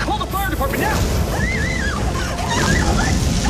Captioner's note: Miss Kwan screaming